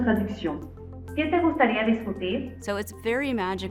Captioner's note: Ameca speaking French; Ameca speaking foreign language